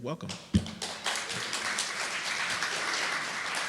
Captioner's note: applause